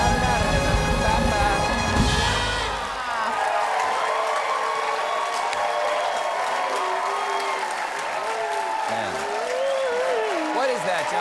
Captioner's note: cheers and applause